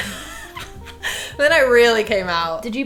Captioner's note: laughing